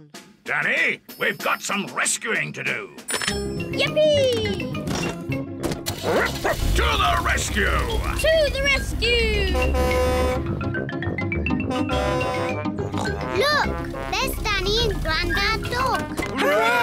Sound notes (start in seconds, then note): 6.0 barks; 9.2 horn blares; 12.8 snorts